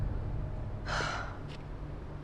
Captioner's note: sighs